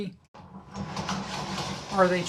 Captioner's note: barricade retracting